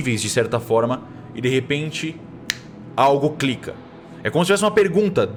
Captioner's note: click